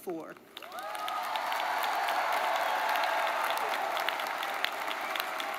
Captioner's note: audience cheers and applauds